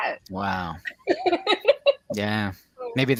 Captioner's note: laughs